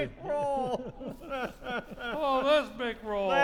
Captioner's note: laughing